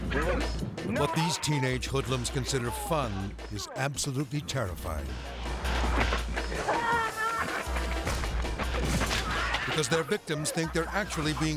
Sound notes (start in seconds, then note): 5.8 paint gun popping; 6.5 bike rider screaming